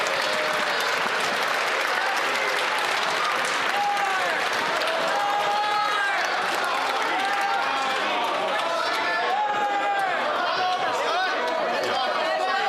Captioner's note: cheering and Applause